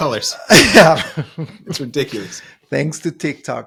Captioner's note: laughing